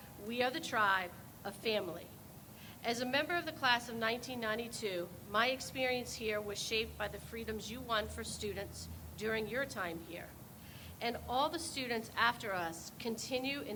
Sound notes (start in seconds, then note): none